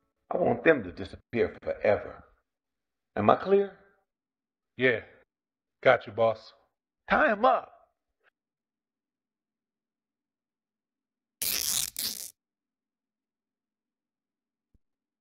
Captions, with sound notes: I want them to disappear forever. Am I clear? Yeah... Got you boss. Tie him up! [Duct tape tearing]